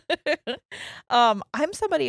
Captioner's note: laughing